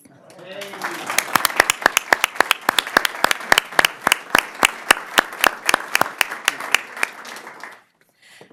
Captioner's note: applause